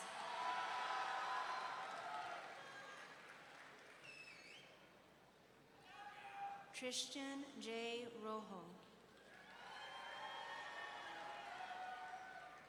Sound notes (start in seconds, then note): 0.1 audience cheering; 4.3 audience member wolf-whistling; 9.6 audience cheering